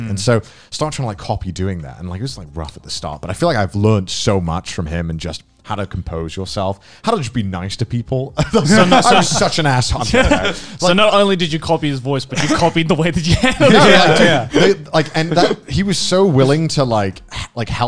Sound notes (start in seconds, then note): 8.4 laughing; 8.4 men laughing; 13.2 men laughing